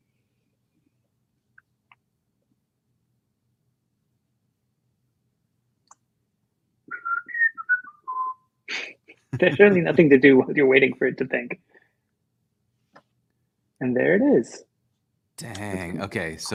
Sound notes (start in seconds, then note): 8.8 laughter; 9.3 whistling